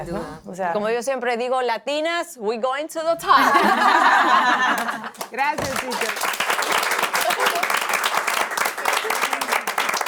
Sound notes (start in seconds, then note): 3.2 laugh; 7.3 applaud